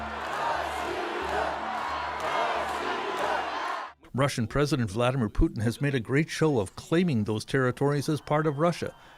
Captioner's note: chanting